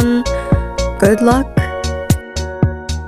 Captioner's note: breath